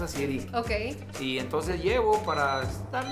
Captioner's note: man speaking Spanish